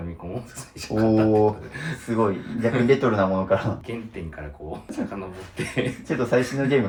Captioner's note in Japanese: 笑い